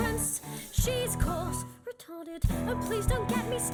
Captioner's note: whispered